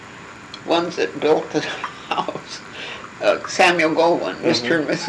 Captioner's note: laughing